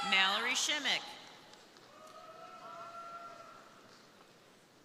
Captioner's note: crowd cheering; crowd cheering